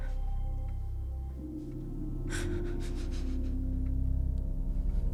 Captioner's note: Allison breathes heavily